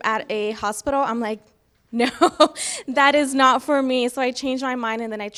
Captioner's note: laughs